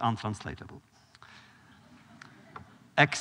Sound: laughter

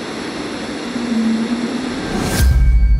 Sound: static buzzing; faint humming; dark tense music

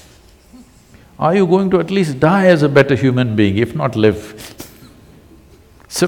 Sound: laughs

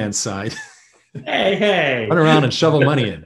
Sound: laughs

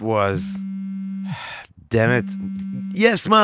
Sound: sigh

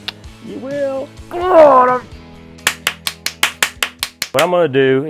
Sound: man clapping

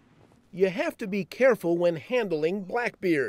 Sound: voiceover

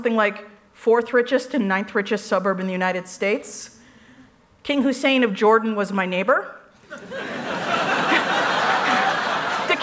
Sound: laughs

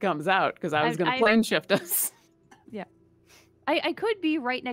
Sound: laughs

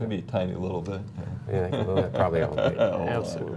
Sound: laughter

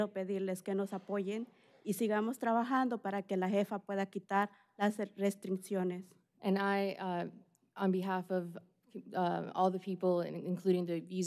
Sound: speaking spanish

